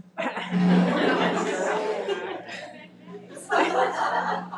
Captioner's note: audience laughing